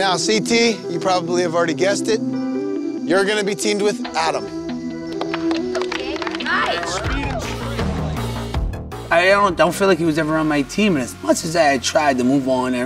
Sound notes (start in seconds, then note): 4.9 group clapping